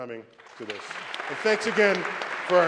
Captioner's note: applause